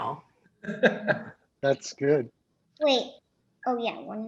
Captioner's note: laughs